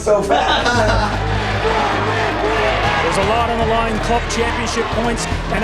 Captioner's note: group laughing; crowd chanting